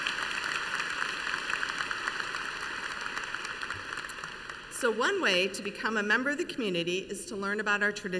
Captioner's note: applause